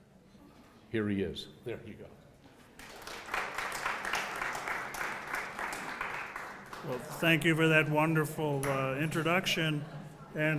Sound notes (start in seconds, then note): 2.7 applause